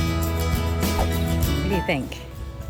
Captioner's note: screen whooshes